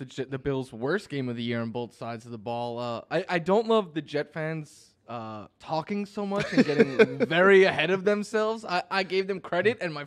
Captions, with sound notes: BOTH SIDES THE BALL. I DON'T LOVE THE JETS FANS TALKING SO MUCH [LAUGHS] LAST NIGHT THEY'RE GETTING VERY AHEAD OF THEM SELVES I GIVE THEM CREDIT MY FRIENDS WERE LIKE